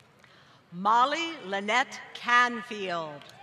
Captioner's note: applause